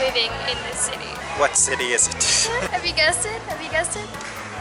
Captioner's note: laughter